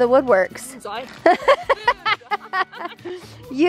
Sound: laughs

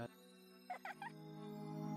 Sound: faint child giggle

